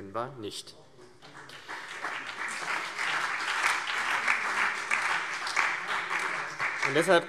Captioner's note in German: Beifall CDU, BÜNDNIS 90/DIE GRÜNEN und vereinzelt DIE LINKE